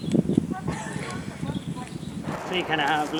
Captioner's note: laughs